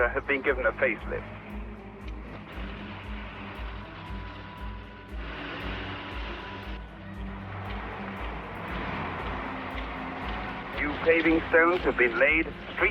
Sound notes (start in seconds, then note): 3.3 soft thoughtful music; 3.3 traffic humming